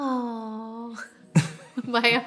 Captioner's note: laughing